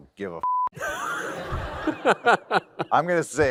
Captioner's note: laughter